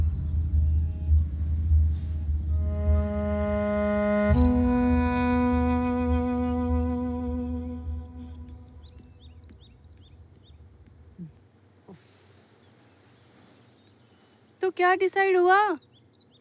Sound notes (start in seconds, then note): 11.8 Premlata sighs